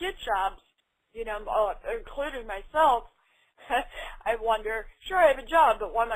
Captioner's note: laughs